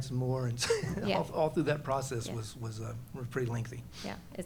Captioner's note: laughs